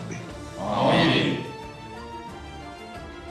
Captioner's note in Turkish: Hep bir ağızdan